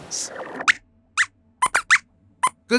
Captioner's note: squeaks squeaks